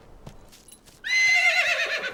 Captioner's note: neigh!!!